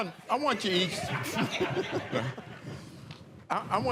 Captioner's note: laughter